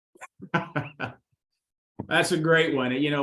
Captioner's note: chuckles